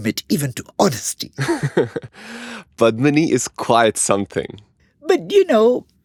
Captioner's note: laughs